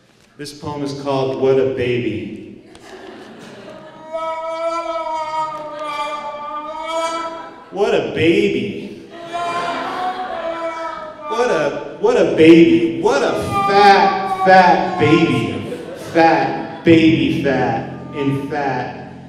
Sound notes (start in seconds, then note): 4.0 trumpet horn; 9.1 laughs